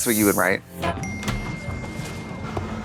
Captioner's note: phone dinging